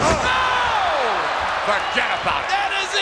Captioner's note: audience cheers